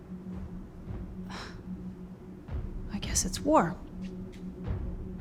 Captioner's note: sighs